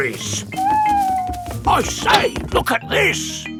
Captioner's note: owl hooting